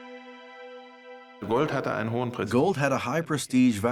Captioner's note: speaking German